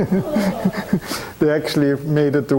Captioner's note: audience laughing; chuckling